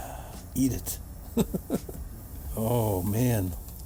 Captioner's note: laughs